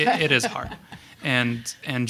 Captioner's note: panel members laughing